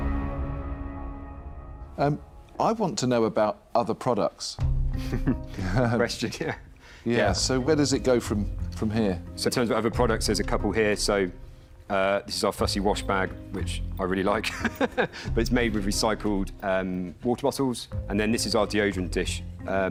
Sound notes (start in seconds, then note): 14.5 laughs